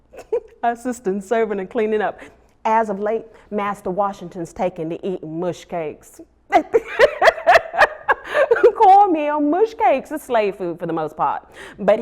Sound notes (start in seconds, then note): 0.8 laughs; 6.6 laughs